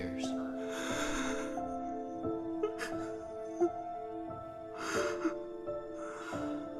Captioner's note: crying